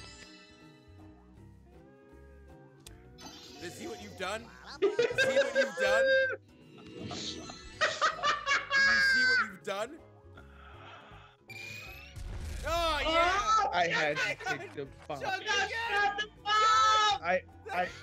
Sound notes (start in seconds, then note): 4.4 laugh